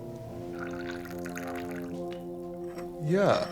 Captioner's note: tea whooshing